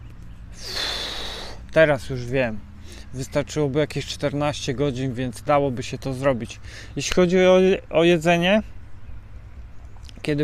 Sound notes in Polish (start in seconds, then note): 0.6 parsknięcie; 0.6 westchnienie